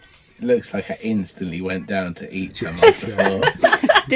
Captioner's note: laughter